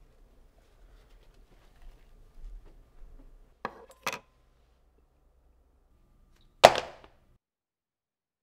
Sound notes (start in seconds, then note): 4.0 plastic sound